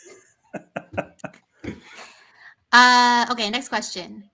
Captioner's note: laughter